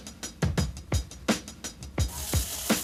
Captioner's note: sizzling